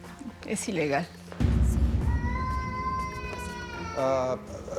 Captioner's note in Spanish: Lloriqueo del niño